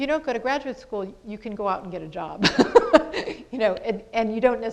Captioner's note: laughs